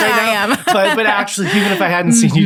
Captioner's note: laughing